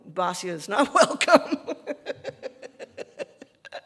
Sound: laughing

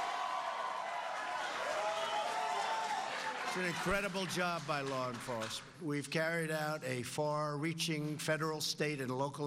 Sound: cheers and applause

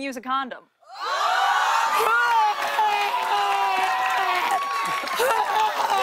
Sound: laughter and applause

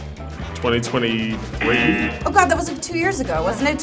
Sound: wrong buzzer rings

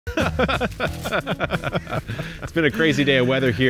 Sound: men laughing

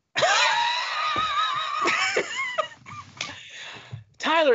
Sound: laughing

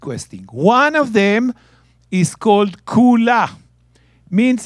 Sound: speaking in Hebrew

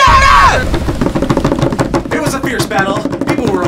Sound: hands rapping table

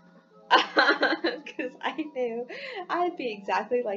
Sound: laughing

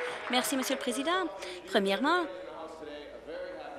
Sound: cheers; applause

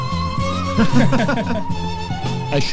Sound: laughing

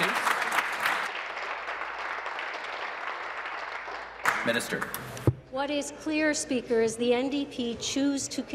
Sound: applause

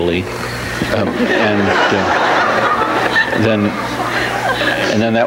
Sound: audience laughs

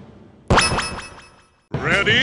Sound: Brawl Start Button Sound

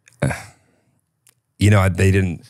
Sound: scoffs

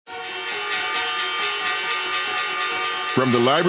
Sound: bells chiming

